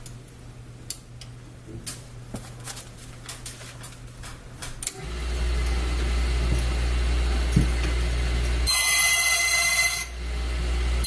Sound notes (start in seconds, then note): 4.9 electric motor spins; 7.8 intermittent metallic grinding noise